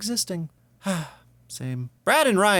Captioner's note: sigh